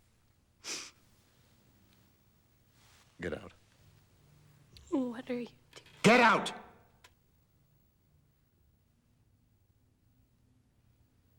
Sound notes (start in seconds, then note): none